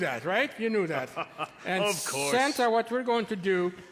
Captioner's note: laugh jovially